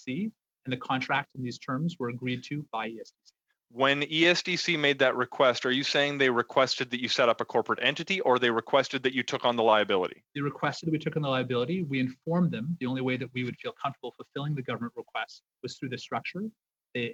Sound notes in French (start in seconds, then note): 8.9 voix de l'interprète